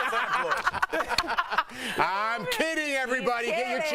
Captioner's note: laughter